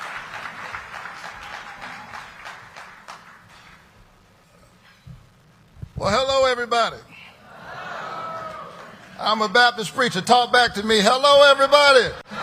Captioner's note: cheering and applause